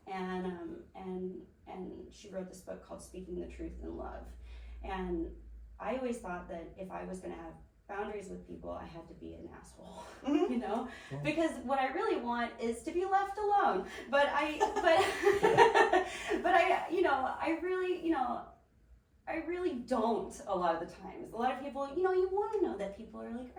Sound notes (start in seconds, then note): 14.0 laughing